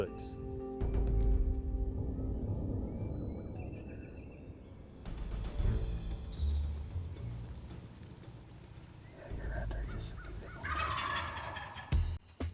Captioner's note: whispering